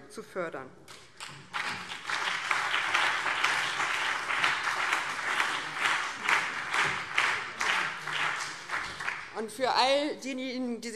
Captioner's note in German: Beifall BÜNDNIS 90/DIE GRÜNEN und CDU